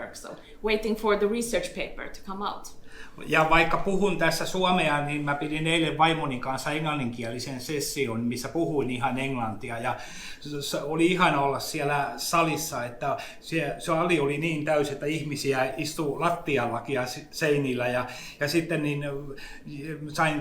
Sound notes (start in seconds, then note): 3.3 speaks in Finnish language